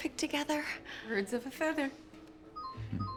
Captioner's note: cell phone chimes